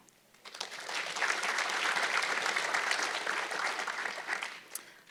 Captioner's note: audience clapping